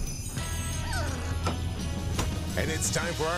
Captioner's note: dog whining